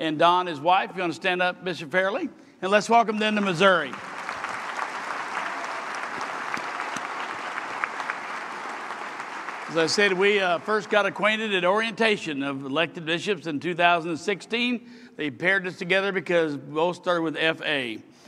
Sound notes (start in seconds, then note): 8.2 applause